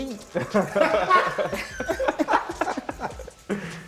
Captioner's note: laughter